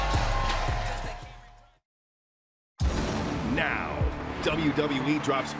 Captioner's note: crowd cheers